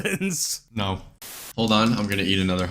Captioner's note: static